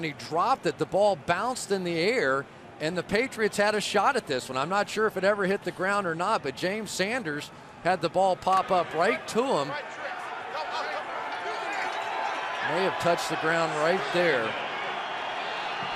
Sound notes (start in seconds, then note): 10.5 onfield chatter